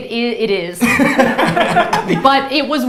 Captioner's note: both laughs